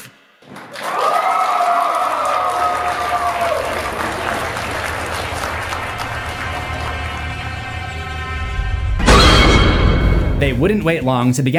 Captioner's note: applause